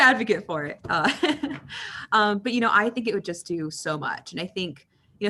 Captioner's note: chuckles